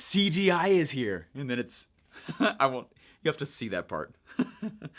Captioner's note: laughs; laughing